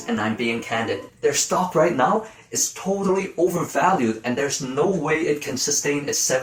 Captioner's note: serious voice